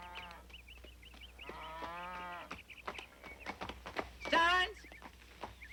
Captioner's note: horse hooves clomping